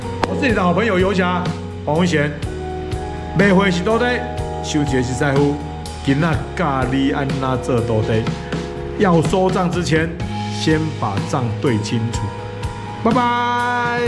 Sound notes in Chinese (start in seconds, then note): 3.3 台語; 8.0 台語